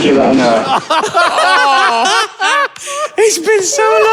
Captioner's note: others cackling